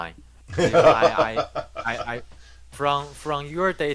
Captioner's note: laughing